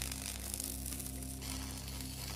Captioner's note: electric zapping